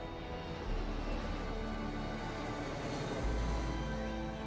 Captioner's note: plane engine